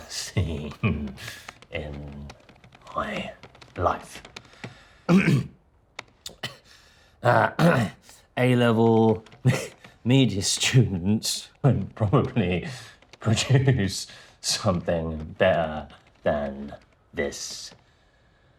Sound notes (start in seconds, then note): 5.1 Danny clears throat